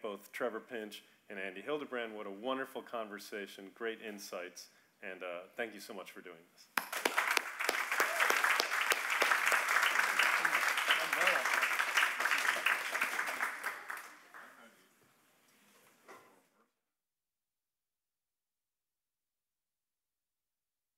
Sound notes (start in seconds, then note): 6.8 audience applauding